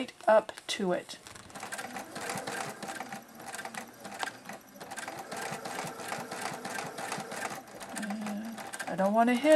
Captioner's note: sound of sewing machine